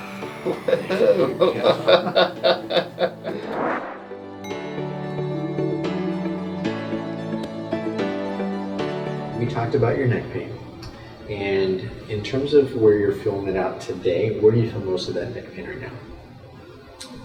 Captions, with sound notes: (laughs) - You talked about your neck pain and in terms of where you're feeling it out today, where do you feel the most of that neck pain right now.